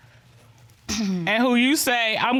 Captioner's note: clears throat